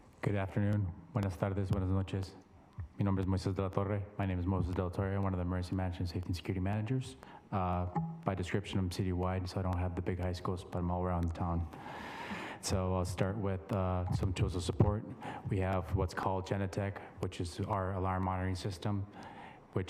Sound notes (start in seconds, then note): 1.1 speaks in Spanish